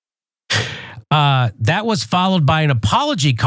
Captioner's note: laugh